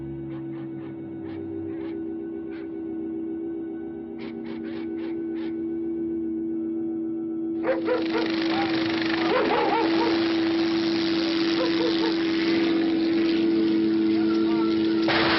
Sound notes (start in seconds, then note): 0.1 dogs barking; 4.1 suspenseful music continues; 7.6 dogs barking; 7.6 rotor whirring; 11.8 dogs barking; 15.0 shots banging